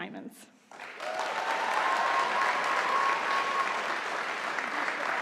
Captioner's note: audience applauding